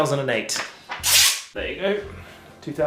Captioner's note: tape ripping